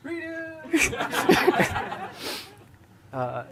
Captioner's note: laughter